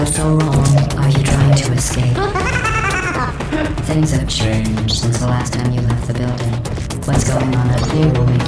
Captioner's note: mechanical laughter